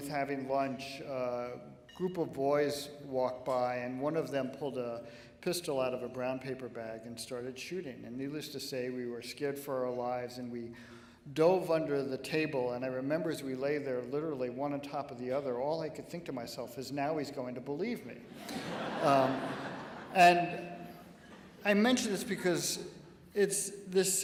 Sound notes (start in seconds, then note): 18.3 laughing